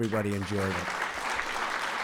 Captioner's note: applause